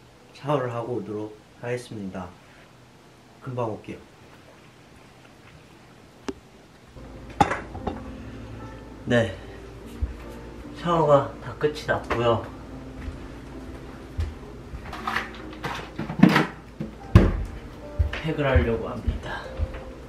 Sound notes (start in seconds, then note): 12.8 trudging